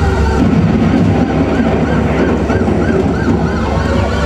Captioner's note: thunder